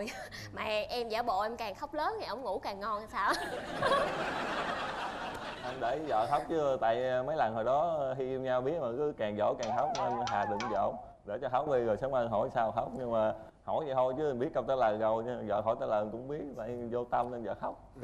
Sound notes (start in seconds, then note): 3.6 laughing